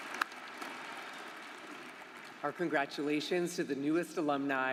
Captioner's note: applause